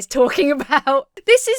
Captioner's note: laughs